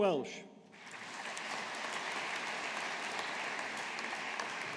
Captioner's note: audience applauding